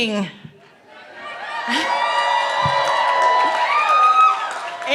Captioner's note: cheering